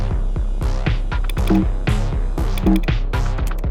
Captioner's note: clicks, error beep; clicks, error beep